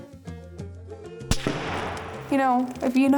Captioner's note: rifle bangs